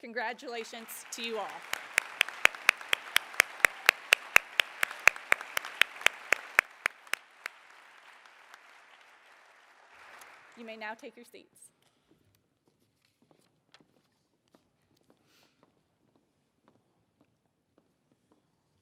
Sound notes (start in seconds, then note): 7.8 applause